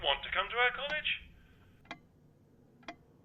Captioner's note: clock ticks